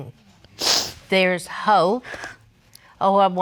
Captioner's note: sniffles